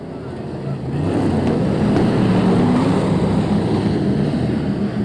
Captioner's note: engines revving